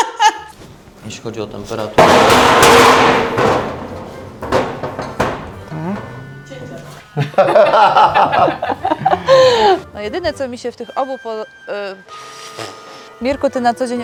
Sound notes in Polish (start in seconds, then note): 0.0 śmiech; 2.0 dźwięk upadającego garnka; 7.1 śmiech